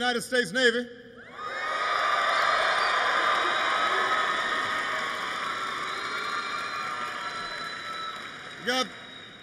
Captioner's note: applause